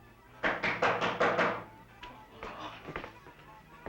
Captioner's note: knocking on door